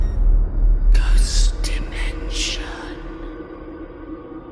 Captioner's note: whispering